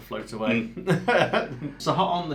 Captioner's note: laughs